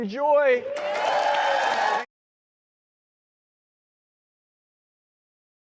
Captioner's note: audience claps and cheers